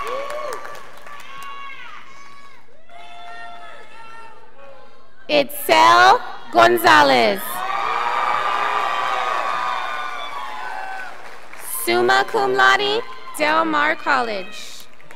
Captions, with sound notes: Itzel Gonzalez, (scholars applauding) summa cum laude, Del Mar College.